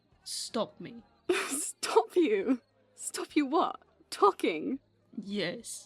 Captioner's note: Lily laughs